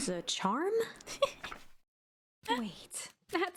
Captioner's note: laughing